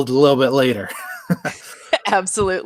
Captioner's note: chuckles